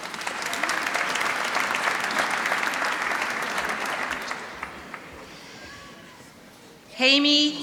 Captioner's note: applause